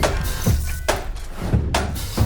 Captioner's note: cloth whooshes; static buzzes; upbeat instrumental music continues